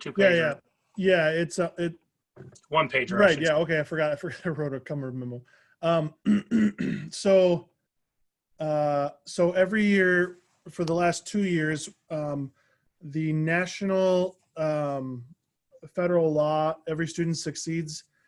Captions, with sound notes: So it's a two pager. >>Yeah, it's a. >>One pager right? >>Yeah, okay, I forgot I wrote a cover memo. (clears throat) So every year for the last two years, the National federal law, Every Student Succeeds Act